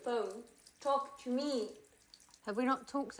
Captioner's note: water splashing